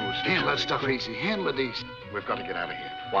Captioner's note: men mumble